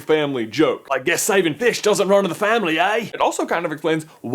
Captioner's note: in a poor Australian accent